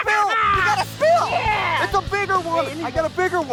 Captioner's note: cheering